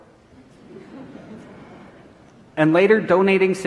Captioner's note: audience laughing